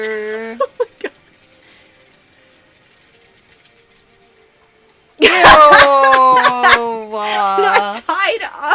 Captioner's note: hysterical laughter